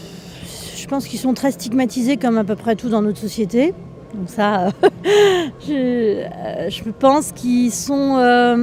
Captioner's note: laughs